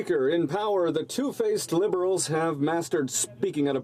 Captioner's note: speaking French